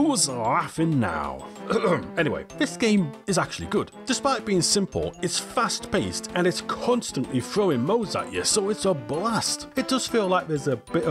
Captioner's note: ahem